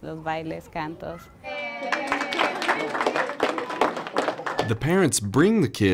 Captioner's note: clapping